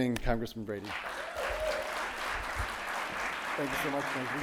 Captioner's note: audience applauding